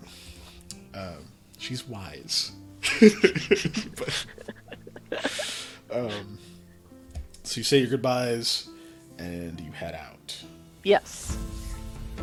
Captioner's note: laughter